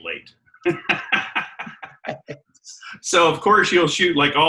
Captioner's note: laughing